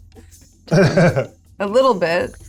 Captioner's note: laughs